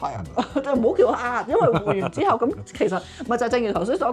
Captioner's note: haha